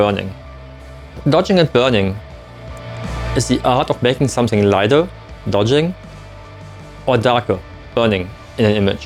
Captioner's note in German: Burning